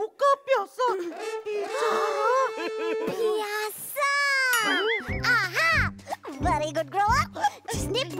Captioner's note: excitedly